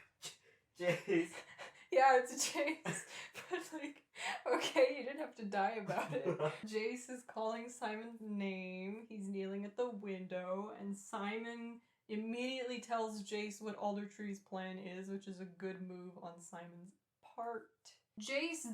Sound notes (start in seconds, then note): 5.8 laughter